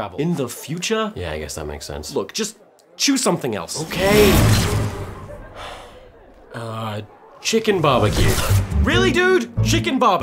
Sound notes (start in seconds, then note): 5.5 el sigh